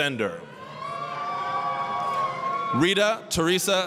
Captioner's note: applause, cheering